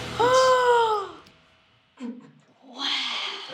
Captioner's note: gasping